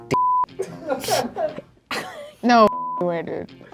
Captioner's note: snickering